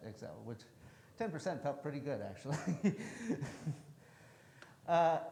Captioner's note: chuckles